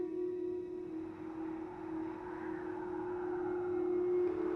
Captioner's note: wind gusting